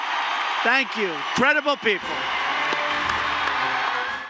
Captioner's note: applause